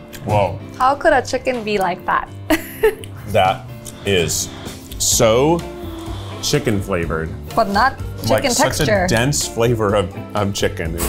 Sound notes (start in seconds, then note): 2.5 laughs